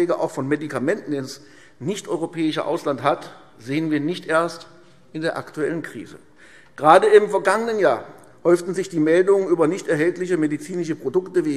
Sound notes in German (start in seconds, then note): none